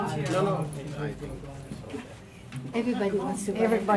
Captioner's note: group chatting